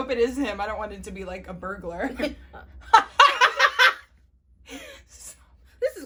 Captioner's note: both Laughing slightly concerned